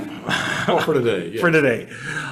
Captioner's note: chuckles